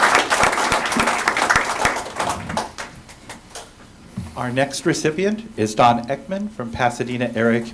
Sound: applause

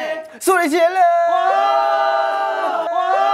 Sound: crowd cheer

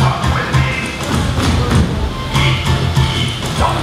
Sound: stomping

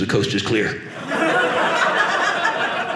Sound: audience laughing

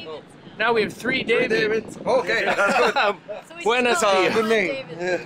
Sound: laughs

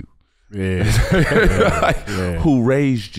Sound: chuckling

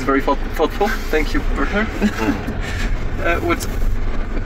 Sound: laughs

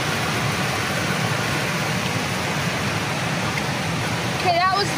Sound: waters crashing

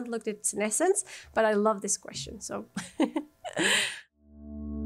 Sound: laughter

